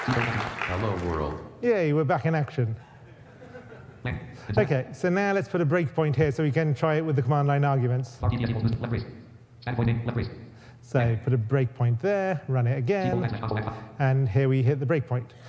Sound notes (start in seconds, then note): 0.0 audience applauds; 3.0 audience laughs